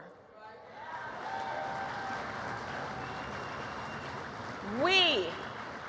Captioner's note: applause